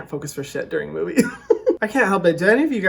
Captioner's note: laughing